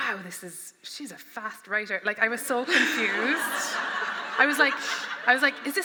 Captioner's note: laughter